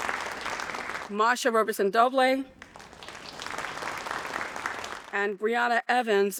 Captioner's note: audience applauding; audience applauding